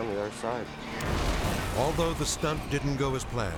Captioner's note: charges explode